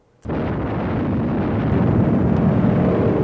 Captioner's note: loud explosion; air plane engines roar